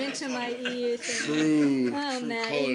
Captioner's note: laughter